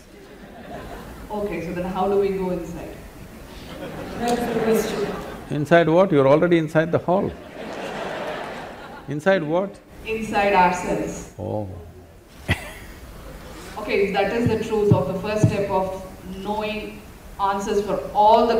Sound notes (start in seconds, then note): 3.6 laughter; 7.3 laughter; 12.3 laughs